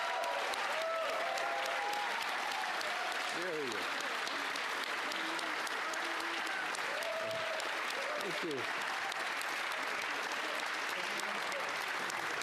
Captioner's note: applause; cheering